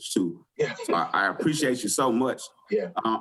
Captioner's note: chuckles